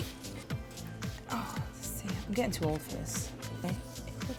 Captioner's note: sighs